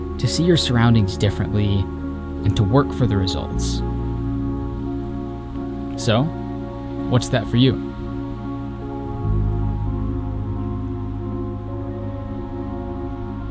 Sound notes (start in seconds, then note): 8.0 ambient music; 8.0 wind whistling